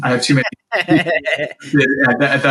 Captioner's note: laughing